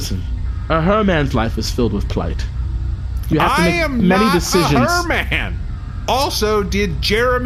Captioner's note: yelling